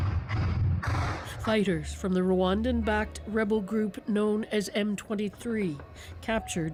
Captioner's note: gunshots